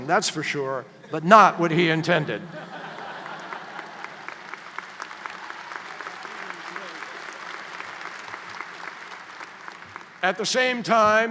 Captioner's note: applause